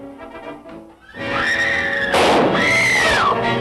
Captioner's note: gunshot; woman screaming